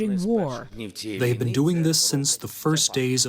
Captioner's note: through translator